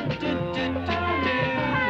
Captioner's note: kids cheering